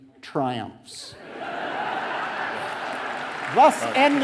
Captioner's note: audience laughing and applauding